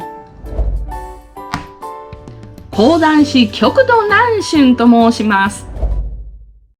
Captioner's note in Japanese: 張扇 パン